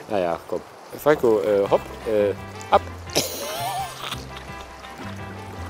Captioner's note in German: lacht